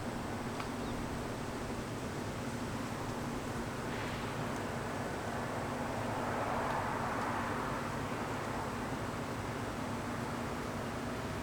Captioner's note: wind blowing